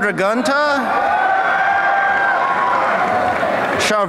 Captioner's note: applause